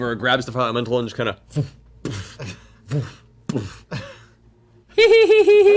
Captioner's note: sound of throwing and catching